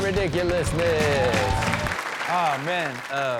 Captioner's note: upbeat rock music; audience clapping